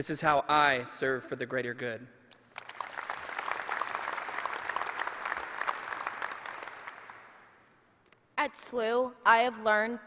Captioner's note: applause